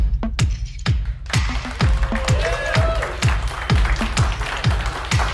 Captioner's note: applause